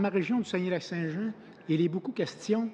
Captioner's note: speaking french